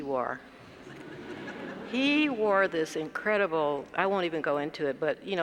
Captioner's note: laugh